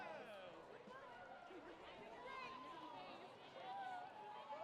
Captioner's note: people chattering